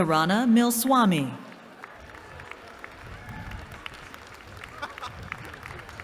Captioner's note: applause